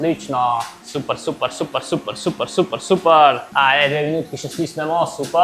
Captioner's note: laughs